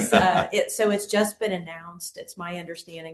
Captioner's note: laughter